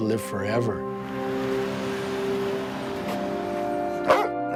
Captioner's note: dog barking loudly